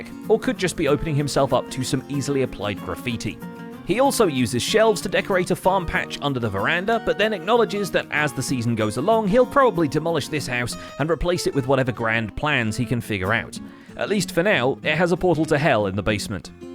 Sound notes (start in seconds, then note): none